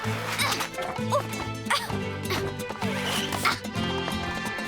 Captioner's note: jumping sounds